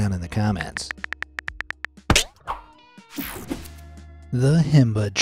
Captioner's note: cell phone keyboard clicking